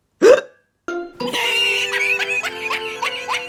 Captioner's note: Callie Laughing